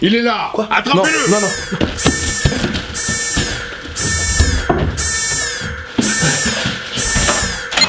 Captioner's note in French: alarme